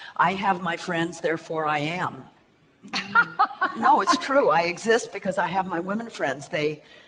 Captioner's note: laughs